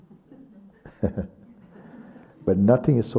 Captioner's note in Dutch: lacht